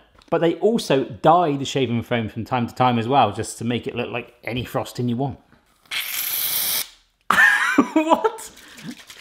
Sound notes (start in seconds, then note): 6.0 aerosol sputtering; 7.3 chuckle